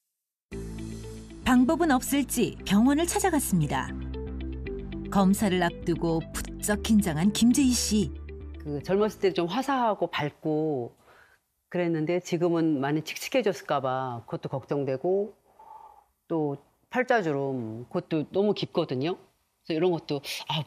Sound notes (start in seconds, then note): 3.7 voiceover